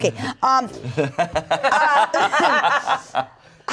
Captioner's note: everyone laughs